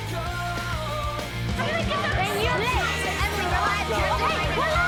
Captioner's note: people chattering